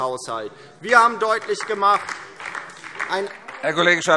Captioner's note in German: Beifall DIE LINKE